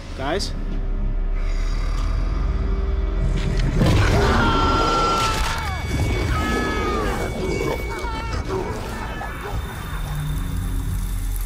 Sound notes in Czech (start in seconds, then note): 4.3 chlapec křičí